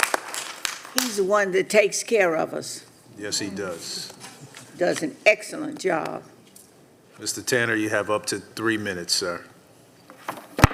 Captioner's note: applause